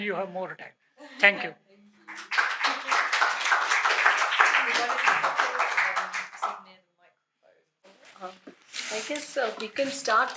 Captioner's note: applause